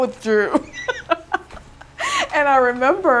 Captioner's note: laughing